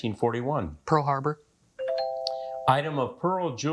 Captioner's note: buzzer chimes